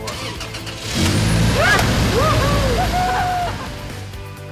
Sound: students cheering

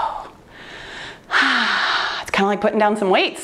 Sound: sighs

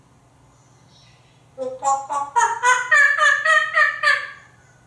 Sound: monkey sounds

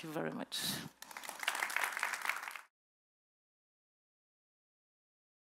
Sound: audience applauding

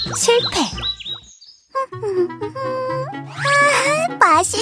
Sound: humming

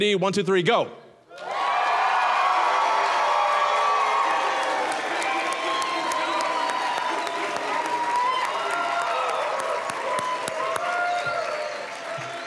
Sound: sustained cheering and applause

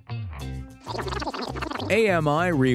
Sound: rewind sound

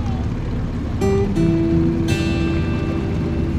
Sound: dinghy engine revs; soft music; water crashes against dinghy; soft music

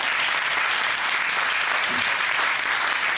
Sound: audience applauding

